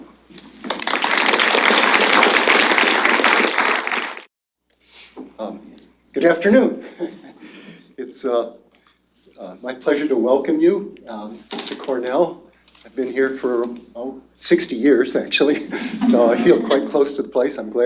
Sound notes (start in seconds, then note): 0.6 applause; 6.8 chuckles